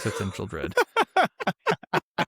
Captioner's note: laughter